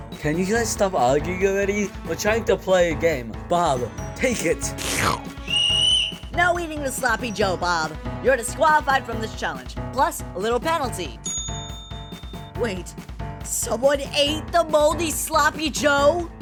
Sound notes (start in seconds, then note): 4.7 slurping; 5.4 whistle blows